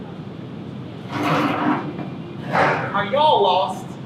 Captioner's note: chair screeches